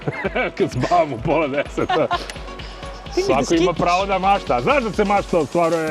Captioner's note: laughs